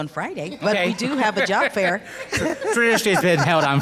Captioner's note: laughs